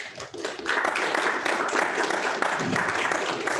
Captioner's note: applause